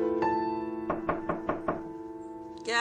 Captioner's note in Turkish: Kapı çalıyor